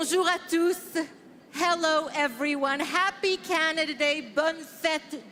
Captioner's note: speaking French